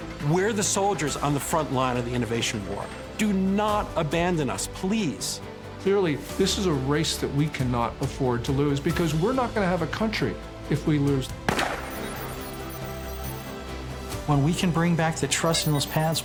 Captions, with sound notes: We're the soldiers on the front line of the innovation war. Do not abandon us, please. - Clearly this is a race that we cannot afford to lose because we're not going to have a country if we lose. [gunshot] [computer calculating sound effect] - When we can bring back the trust in those paths,